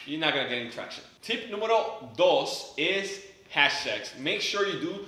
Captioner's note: speaks in foreign language